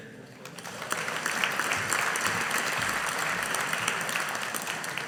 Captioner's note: audience applauding